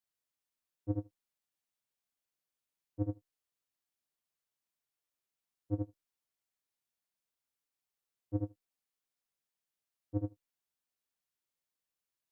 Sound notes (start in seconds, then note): 0.0 silence